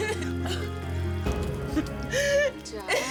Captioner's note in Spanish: Sollozos